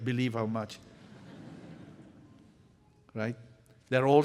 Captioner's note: laughter